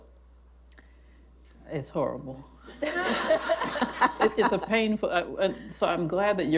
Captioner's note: laughter